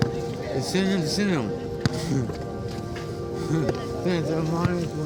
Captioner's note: murmuring